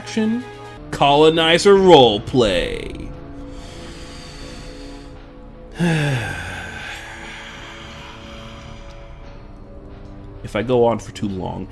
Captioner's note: long sigh